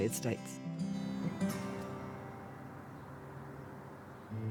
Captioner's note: traffic whooshing